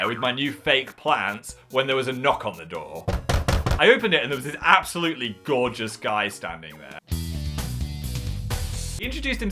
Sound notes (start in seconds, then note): 3.0 door knocking; 7.5 upbeat music